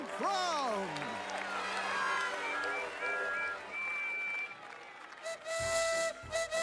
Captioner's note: cheers & Applause